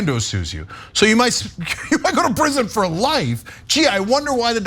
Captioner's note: laugh